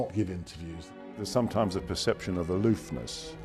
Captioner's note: voiceover